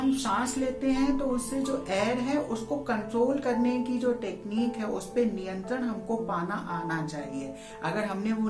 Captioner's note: inhailing and exhailing